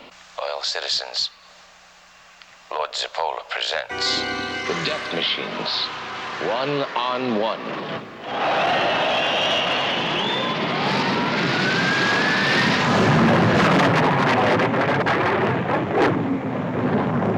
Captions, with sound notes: Loyal citizens, Lord Zirpola presents the Death Machines, one on one. (cheering) (engines roaring)